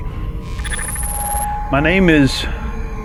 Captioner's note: static buzzing